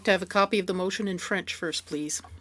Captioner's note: speaking French